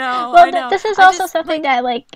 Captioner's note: hosts laugh